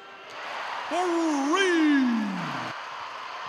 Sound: cheers

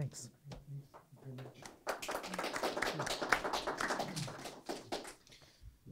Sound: audience clapping

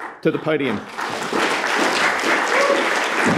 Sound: applause

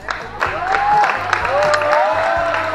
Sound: crowd applauding

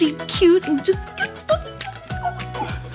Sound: squealing

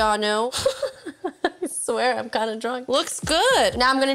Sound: laughs

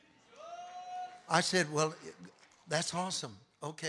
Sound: congregation cheering

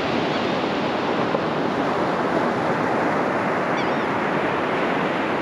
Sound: gulls calling nearby

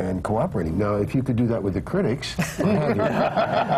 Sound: laughter

